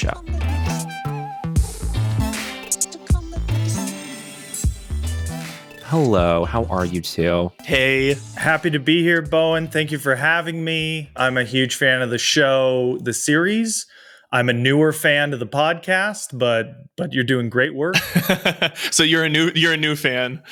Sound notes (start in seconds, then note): 17.9 charles rogers laughs